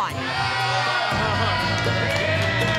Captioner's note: cheers